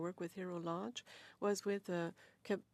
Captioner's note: speaking French